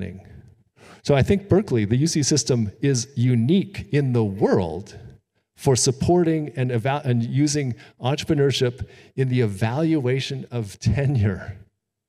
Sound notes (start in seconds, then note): none